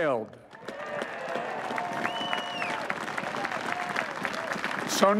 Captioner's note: applause